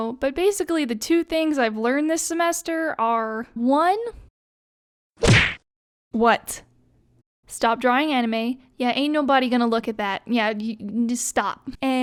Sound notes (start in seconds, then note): 5.2 slam